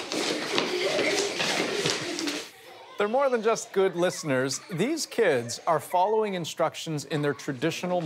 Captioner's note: speaking native language